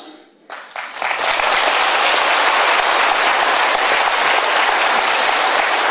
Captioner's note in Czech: potlesk